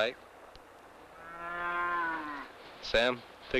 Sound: cow moos

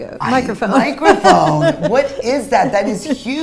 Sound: laughs

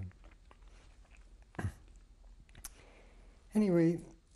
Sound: pauses for 3 seconds

